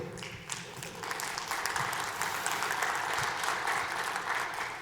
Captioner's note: audience applauding